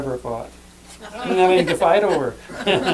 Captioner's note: laughter